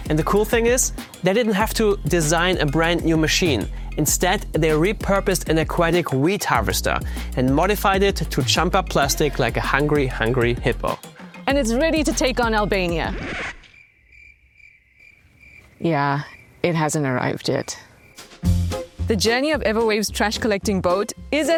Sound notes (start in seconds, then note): 13.6 crickets chirping; 13.6 record scratches